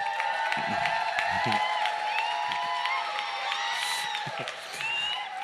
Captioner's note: cheers, appluse